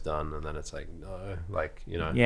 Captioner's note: groans